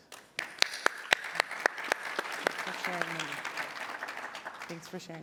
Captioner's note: applause